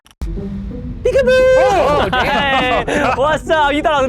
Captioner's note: tape screeching; upbeat music; chattering